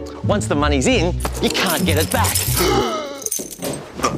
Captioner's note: gasps